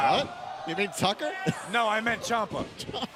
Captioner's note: laughs